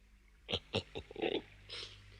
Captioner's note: snickers